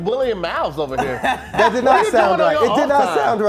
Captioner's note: laughing